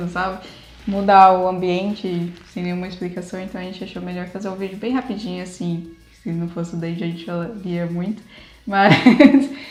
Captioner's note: laughs